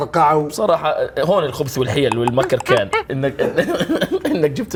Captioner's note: chuckles; mimics clicking language